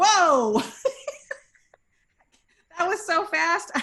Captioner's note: laughs